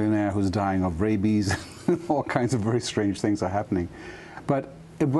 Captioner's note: laughter